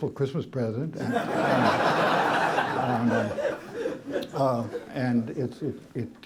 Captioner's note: laughter